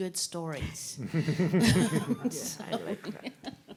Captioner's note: all chuckling